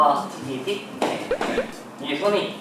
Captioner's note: boing